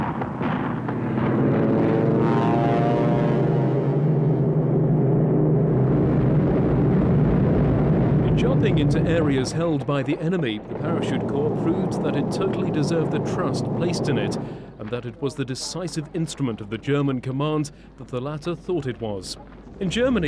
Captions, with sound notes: (airplane propellers running) When jumping into areas held by the enemy, the Parachute Corps proved that it totally deserved the trust placed in it and that it was the decisive instrument of the German command that the latter thought it was.